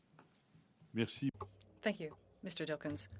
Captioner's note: speaking French